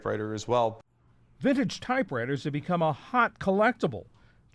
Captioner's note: voice-over